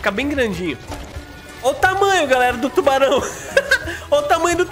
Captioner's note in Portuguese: risos